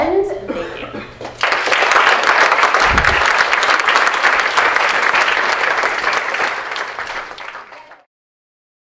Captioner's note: applause